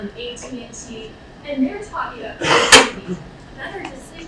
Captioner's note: coughing drowns out speech